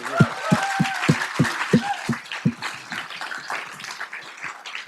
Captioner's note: audience applauding